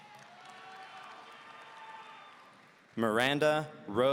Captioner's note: audience cheering